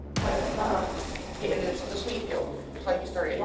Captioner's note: inmates chattering